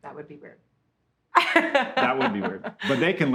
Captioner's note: laughs